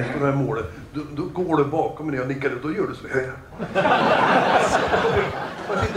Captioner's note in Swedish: Skratt